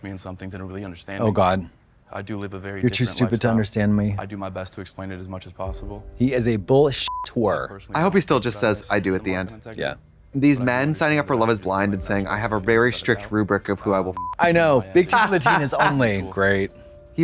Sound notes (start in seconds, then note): 7.0 beep; 14.1 beep; 15.0 Trixie chuckles